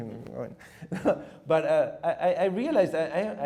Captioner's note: chuckles